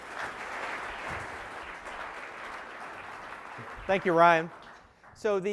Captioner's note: applause